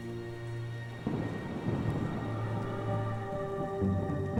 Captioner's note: thunder rumbles